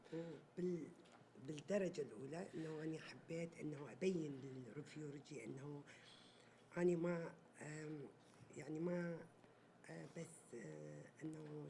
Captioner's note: speaking Arabic